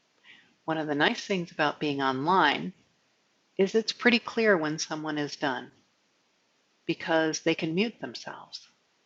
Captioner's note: speaking